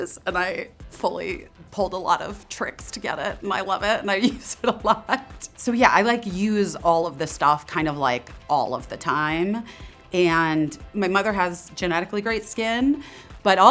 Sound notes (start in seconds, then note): 4.2 laughing